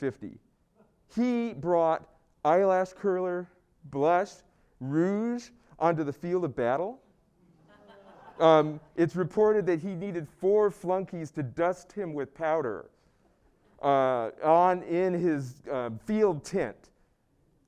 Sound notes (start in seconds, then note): 7.6 laugh